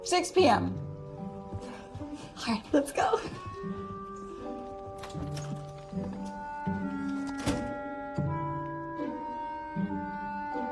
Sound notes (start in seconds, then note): none